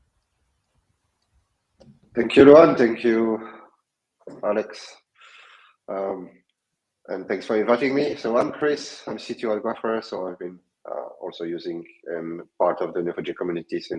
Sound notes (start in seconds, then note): none